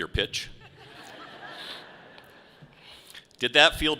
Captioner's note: audience laughs